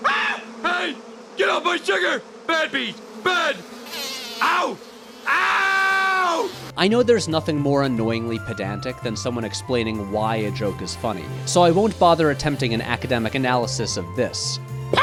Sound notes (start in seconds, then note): 5.2 oooowww!